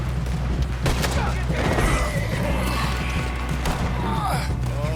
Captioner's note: Arthur grunts in despair. He kneels beside Baldur. It's dying